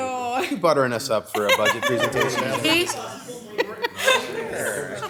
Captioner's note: laughter